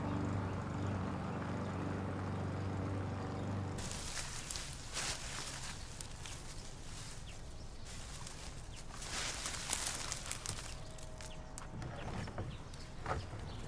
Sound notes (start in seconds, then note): 3.1 birds chirping; 3.7 leaves rustling